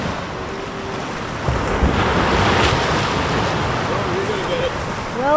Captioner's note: sound of waves crashing